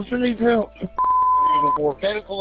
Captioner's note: beep